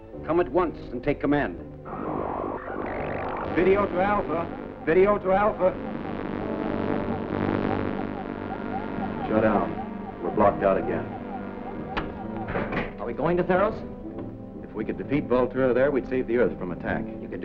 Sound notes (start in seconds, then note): 6.7 buzzing